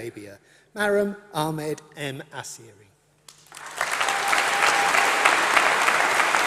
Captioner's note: applause